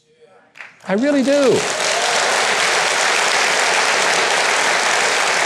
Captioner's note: audience applause